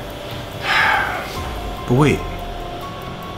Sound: exhales

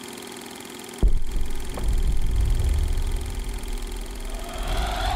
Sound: volcano exploding; air whooshing

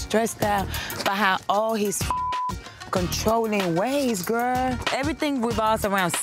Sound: beep

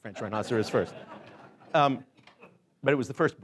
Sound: laughing

